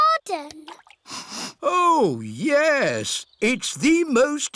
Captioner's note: sniffs